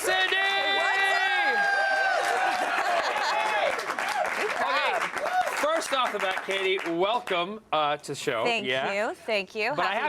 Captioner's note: applause